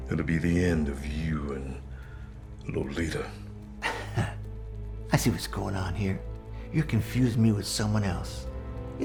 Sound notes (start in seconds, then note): 3.8 chuckles